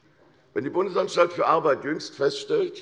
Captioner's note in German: none